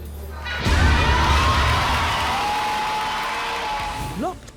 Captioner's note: audience cheering